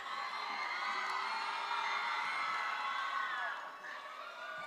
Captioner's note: attendees cheering